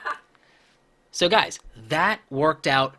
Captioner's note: laughing